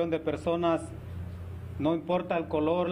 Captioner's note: speaking spanish